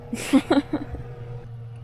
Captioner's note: laughter